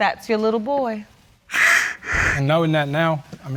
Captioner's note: crying